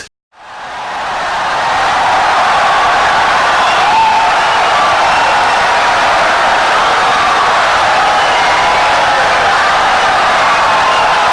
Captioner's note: wild applause and cheering for 17 seconds